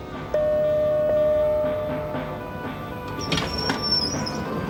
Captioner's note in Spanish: ruido de ascensor